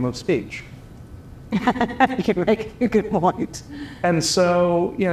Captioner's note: laugh